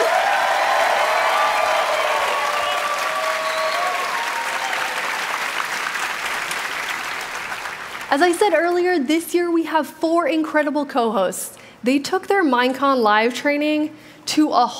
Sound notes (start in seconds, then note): 3.4 cheering; 3.9 applause